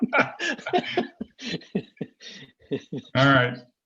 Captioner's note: laughing